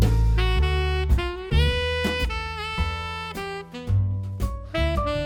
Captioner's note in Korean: 두둥